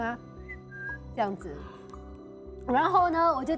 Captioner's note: whistle sound